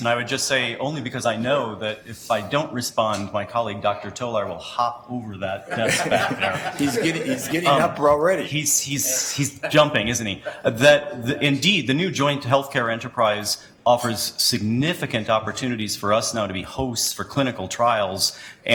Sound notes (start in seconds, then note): 5.6 laughs